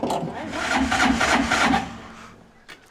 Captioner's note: engine sputtering